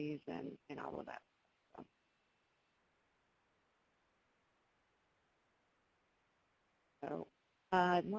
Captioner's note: pause